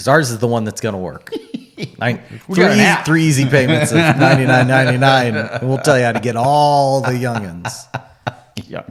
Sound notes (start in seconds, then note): 3.5 giggles